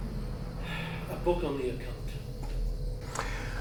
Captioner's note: sighs